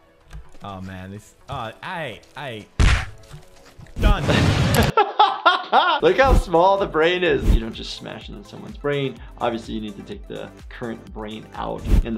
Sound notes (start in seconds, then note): 2.8 pounding; 4.2 laughter